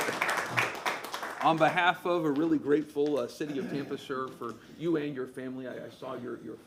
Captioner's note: applause